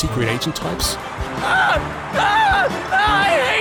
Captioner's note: trevor screams